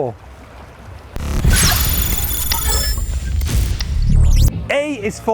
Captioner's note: electronic buzz